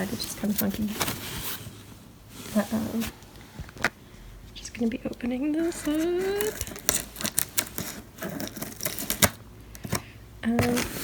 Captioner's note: scissors cutting, tape crinkling